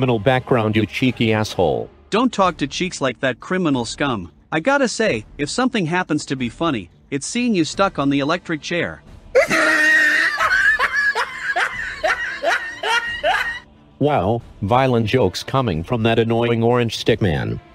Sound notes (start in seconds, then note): 9.3 laughs